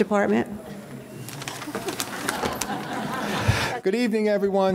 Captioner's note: audience laughing